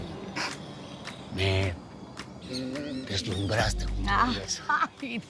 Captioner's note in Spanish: Ríe